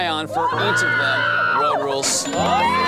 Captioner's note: teammates cheer; player screams